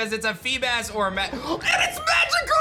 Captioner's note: gasps